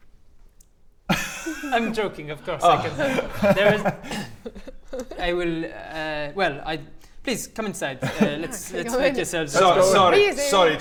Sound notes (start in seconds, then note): 0.1 shocked silence; 3.1 sigh of relief